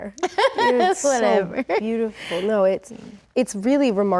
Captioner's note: laughs